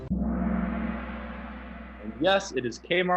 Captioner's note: gong